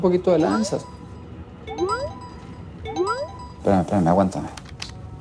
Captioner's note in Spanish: Aviso de mensaje